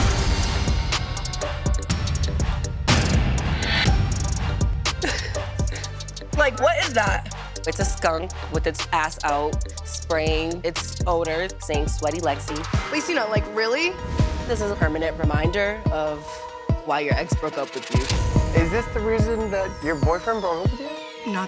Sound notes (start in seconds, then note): 0.0 upbeat hip-hop music; 4.9 laughs